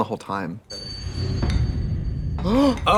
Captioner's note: ring thuds; both gasp